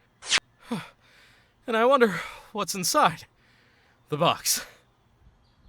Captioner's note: heavy breathing